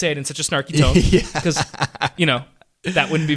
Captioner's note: laughs